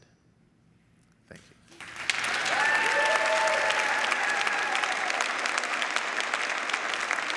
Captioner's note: audience applauds